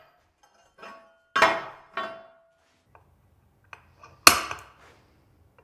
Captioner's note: metal thudding